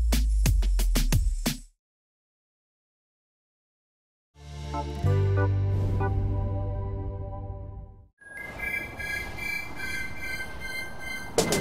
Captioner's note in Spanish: Sirenas